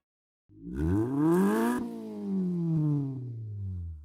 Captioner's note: engine revs